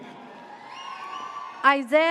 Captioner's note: audience cheers